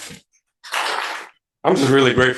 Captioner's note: audience applauds